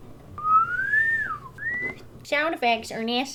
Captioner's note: whistles